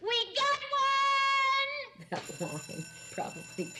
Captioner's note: buzzer ringing